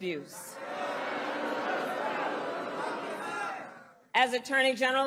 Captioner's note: crowd booing